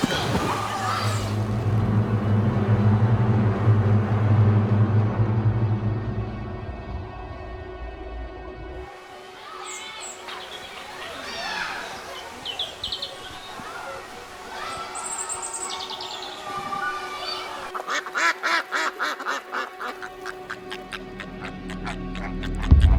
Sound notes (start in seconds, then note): 0.0 water splashing; 2.1 tense music; 2.1 water warbling; 10.0 children laughing; 10.1 children yelling; 12.9 birds chirping; 17.4 ducks quacking; 17.9 tense music